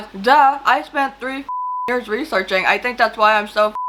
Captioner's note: beep